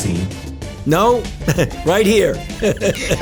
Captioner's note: laughs